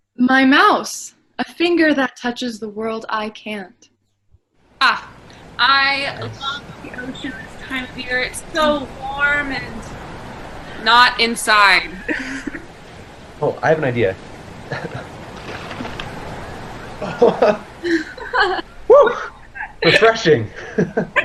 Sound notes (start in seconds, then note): 14.8 group laughing